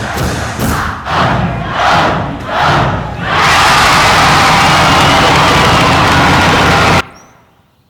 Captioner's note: yelling; birds chirping